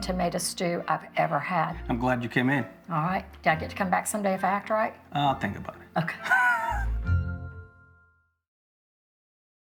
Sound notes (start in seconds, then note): 6.2 chuckles